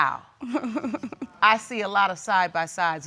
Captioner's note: chuckles